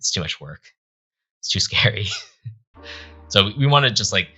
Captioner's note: chuckling